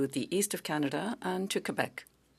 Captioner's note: speaking French